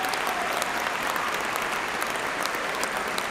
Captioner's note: cheers and applause